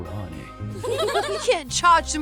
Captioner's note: laughter